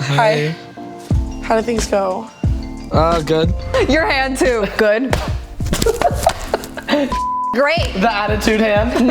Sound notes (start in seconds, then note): 5.1 smacking; 5.6 laughing